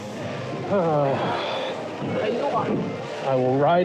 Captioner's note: groans